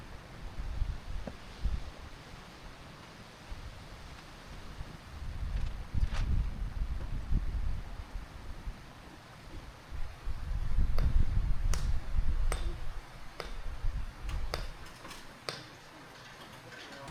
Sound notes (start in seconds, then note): 4.5 wind blowing